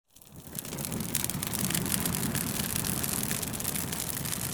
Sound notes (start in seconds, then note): 0.0 fire crackling